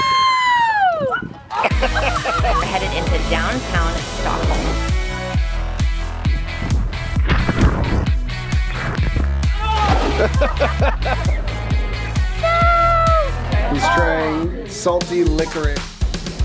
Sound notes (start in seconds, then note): 1.5 yells happily; 1.5 family laughs; 5.7 upbeat music; 9.5 man yells; 9.9 family laughs